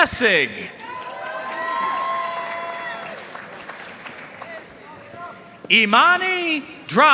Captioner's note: audience cheering and applauding